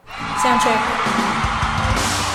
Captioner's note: audience screaming